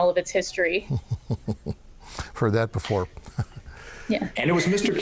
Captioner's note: laughing